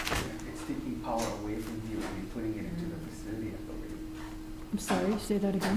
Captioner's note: murmuring